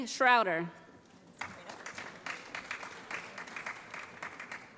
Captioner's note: applause